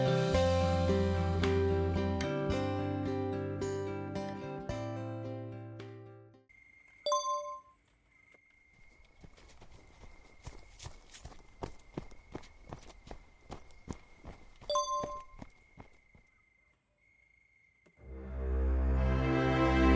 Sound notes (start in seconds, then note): 7.1 ding; 14.7 ding